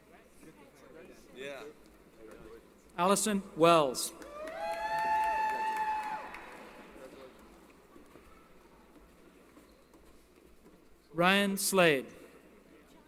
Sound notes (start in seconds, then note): 4.2 applause & Cheering